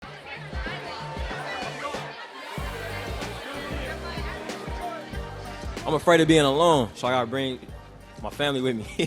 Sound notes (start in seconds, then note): 0.0 crowd noise; 0.0 upbeat music